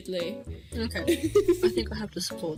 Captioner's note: laughs